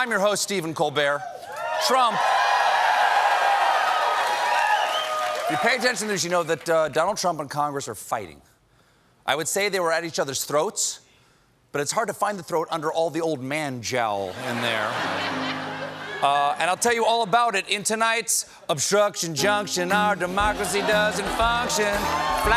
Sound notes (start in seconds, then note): 1.3 cheers and applause